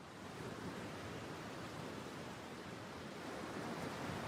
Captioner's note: waves splashing